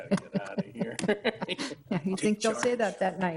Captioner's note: people chuckling